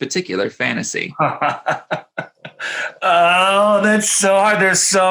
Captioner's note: laughs cheerfully